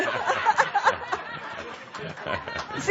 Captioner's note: laughter